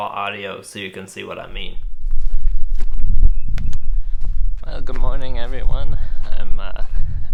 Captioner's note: wind and static in the background